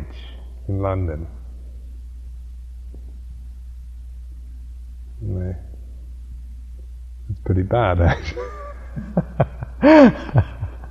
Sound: laughter

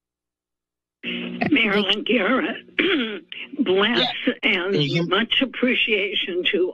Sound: clears throat

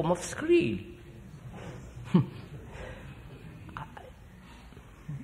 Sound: laughs

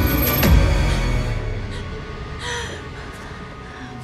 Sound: breathing heavily

